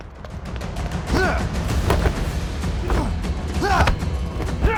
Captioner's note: dramatic music; both moaning; dramatic music